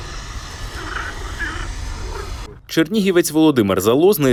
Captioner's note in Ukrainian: крякають жаби